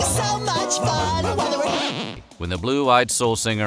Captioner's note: singing; record scratch sound effect